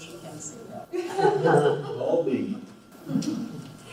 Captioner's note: laughs